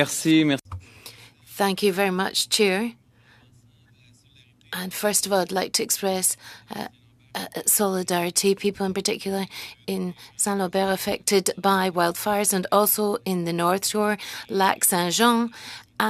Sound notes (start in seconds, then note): 6.6 speaking French